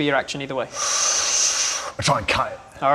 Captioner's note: sharp intake of breath